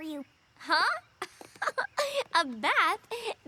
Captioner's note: laughs